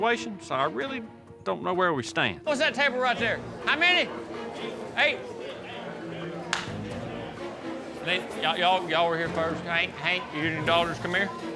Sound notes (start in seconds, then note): none